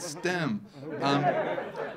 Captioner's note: audience laughing